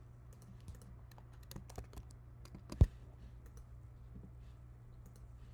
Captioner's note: keyboard clicking